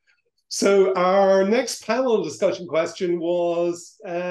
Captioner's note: laughs; laughs